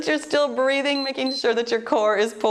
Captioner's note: timer beeps